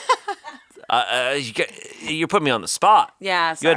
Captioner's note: laughing